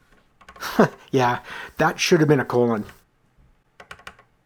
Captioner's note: chuckle